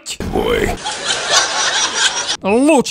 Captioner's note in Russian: Смех